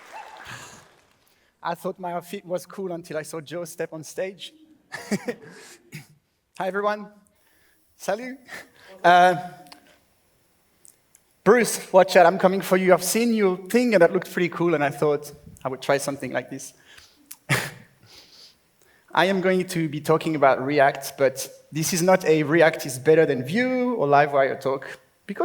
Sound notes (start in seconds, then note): 0.0 applause; 0.9 laughs; 4.9 laughs; 18.3 laughs